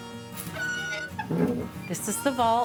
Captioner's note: soft western music; door creaking